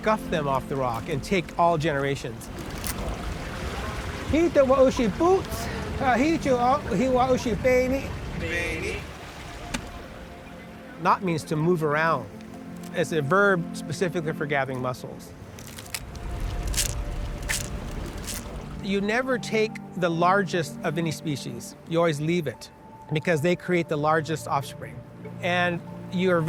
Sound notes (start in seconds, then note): 11.1 speaks Tolowa-Dee-ni'